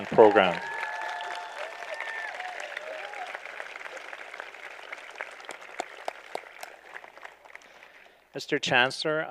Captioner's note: applause